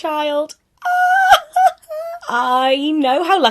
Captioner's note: excitedly laughing